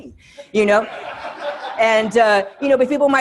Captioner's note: students laughing